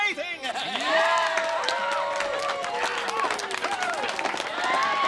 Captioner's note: audience cheering